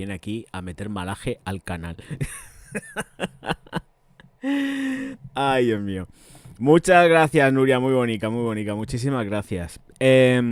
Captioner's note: laughs